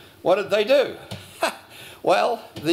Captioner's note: laughs